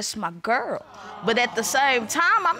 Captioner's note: audience awes